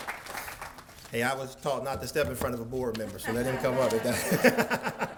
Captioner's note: laughter